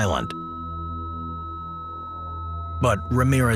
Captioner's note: heart monitor beeping